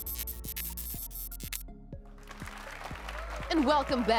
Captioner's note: applause and cheers